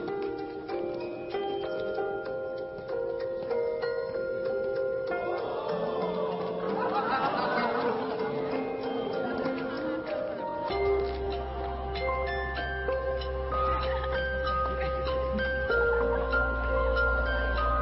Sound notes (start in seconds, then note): 5.1 crowd exclaiming in awe